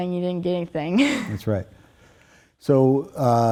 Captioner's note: laughing